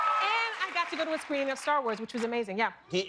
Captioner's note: cheers and applause